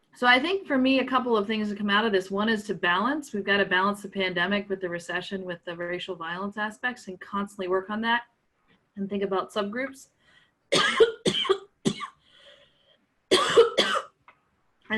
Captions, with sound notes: So I think for me, a couple of things to come out of this, one is to balance, we've got to balance the pandemic with the recession, with the racial violence aspects and constantly work on that and think about subgroups. (coughing)